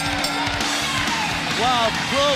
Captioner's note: bell ringing